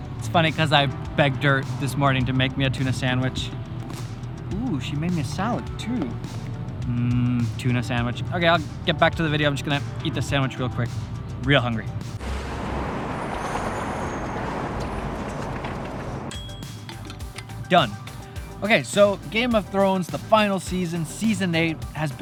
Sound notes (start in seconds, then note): 12.4 soft wind and traffic; 16.3 small bell dings